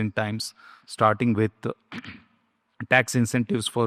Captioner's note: clears throat